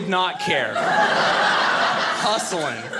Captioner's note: audience laughing